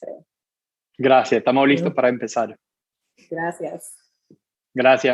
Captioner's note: speaking in Foreign Language